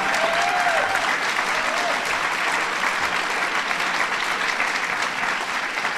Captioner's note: applause